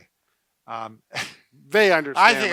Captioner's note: laughs